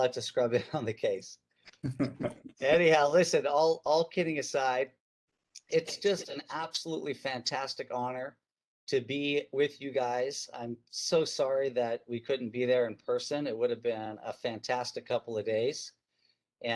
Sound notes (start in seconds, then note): 1.7 chuckles